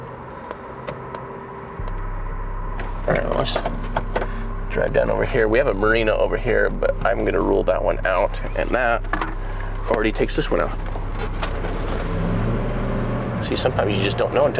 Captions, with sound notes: All right, let's drive down over here. We have a marina over here, but I'm gonna rule that one out and that already takes this one out. (RV engine roaring) See, sometimes you just don't know